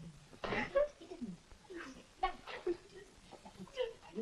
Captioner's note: Mavis crying